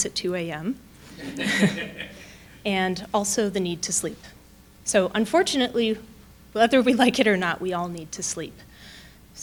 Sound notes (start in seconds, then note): 1.2 audience laughing; 1.2 chuckling